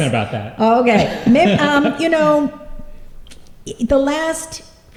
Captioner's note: laughter